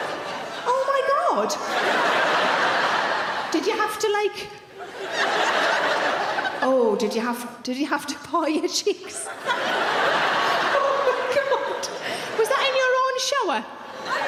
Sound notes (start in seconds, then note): 9.1 audience laughing